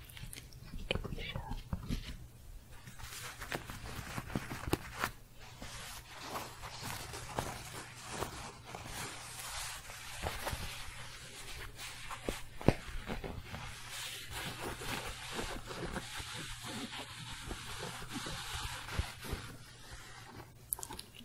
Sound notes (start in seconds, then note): 0.0 more intense scratching; 2.3 intense scratching and shuffling